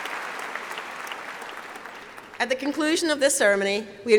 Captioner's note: applause